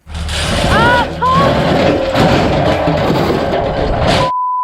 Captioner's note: metallic clanking; yelling; continuous beep